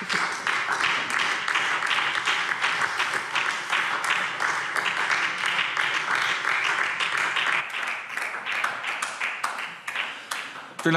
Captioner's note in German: Beifall SPD und vereinzelt CDU